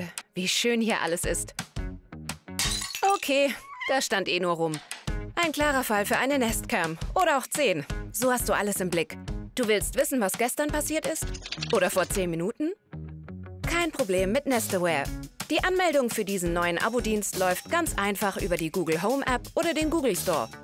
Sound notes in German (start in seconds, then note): 2.6 scheppern